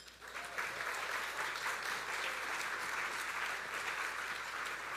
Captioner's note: audience applauding